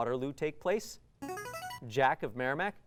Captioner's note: ringing